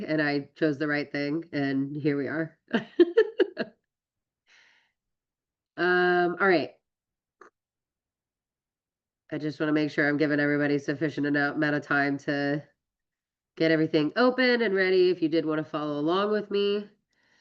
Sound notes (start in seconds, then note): 2.8 laughs